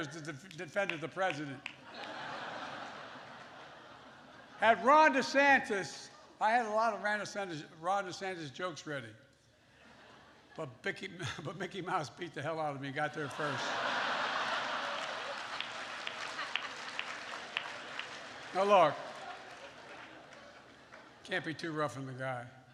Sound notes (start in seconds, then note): 1.4 laughter; 13.2 laughter and applause